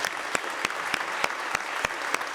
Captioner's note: applause